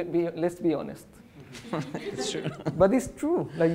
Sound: audience laughs

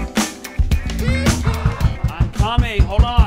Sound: banging on door

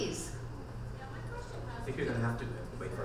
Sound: voiceover

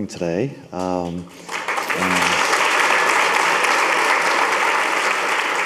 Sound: audience applauding

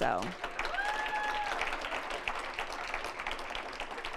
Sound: applause, cheering; applause

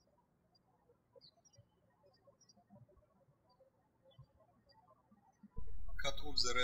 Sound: birds chirping

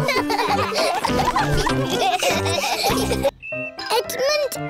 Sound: all laughing

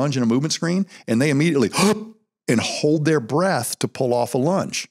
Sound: gasp

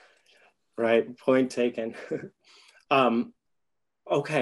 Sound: laughs

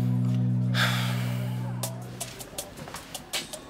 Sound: Tre sighs

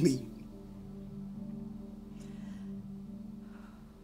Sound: breathes shakily

